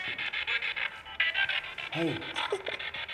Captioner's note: Isabel sobbing